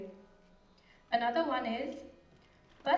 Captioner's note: non-english speech